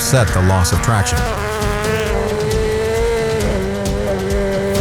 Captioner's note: car engine revving